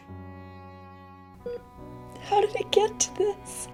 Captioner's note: heart monitor beeping